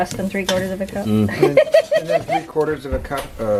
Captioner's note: laughter